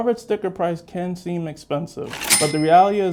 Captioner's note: cash register rings